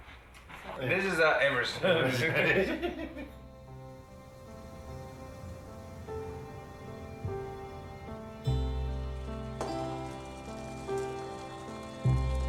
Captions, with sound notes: This is Everest. (group laughs) (slow music)